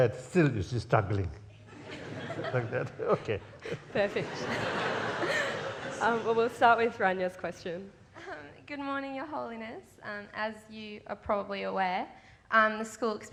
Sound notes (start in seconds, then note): 1.6 laughs